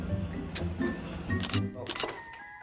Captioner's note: camera snap